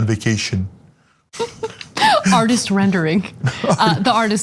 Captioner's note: laugh